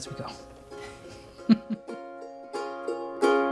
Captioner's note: laughs